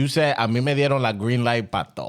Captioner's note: speaking In Foreign Language